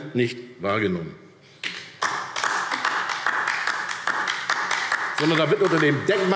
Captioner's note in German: Beifall DIE LINKE